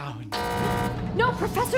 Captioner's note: buzz